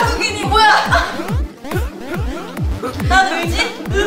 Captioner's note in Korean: 음소거 웃음 중